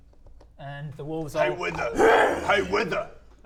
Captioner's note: grrrrrrr